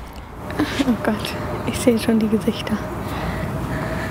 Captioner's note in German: seufzt